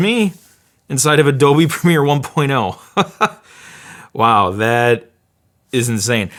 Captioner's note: laughs